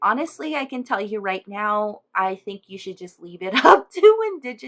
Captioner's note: chuckle